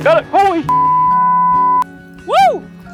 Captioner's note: beep